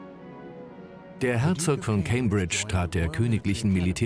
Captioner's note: voiceover